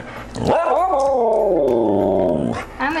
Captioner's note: talking